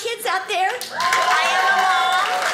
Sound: audience cheers

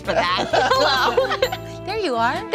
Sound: laughing

